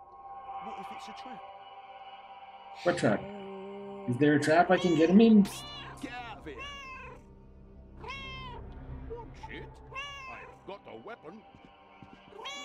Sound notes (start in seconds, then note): 4.6 Hodge meowing; 9.9 Hodge meowing; 12.3 Hodge meows